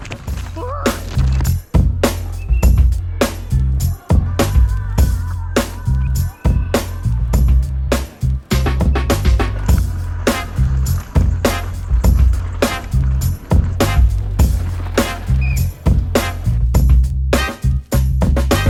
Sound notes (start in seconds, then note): 0.2 crying out; 2.2 whistle chirping; 3.8 percussive hip hop music; 15.0 whistle chirping